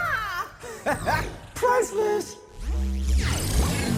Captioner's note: laughs